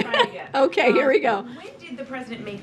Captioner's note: laughs